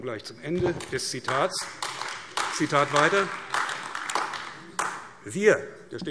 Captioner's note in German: Beifall AfD